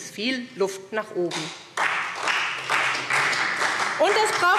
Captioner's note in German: Beifall SPD